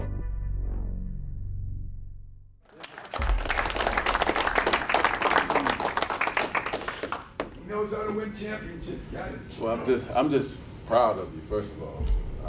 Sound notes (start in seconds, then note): 0.0 dramatic music; 2.7 clapping